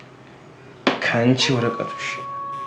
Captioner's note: phone Rings - Wolf Howl